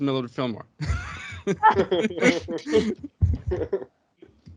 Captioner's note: everyone laughing